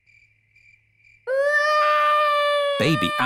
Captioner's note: baby alexander crying